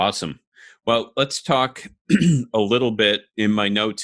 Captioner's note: clearing voice